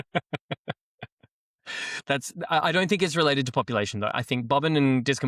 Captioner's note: laughs